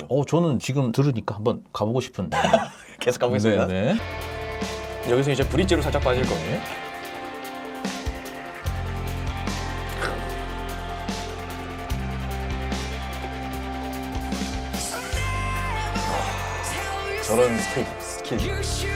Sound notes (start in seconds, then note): 2.3 laughing out loud